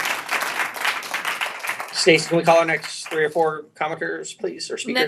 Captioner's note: applause